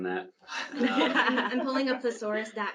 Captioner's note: panel laughs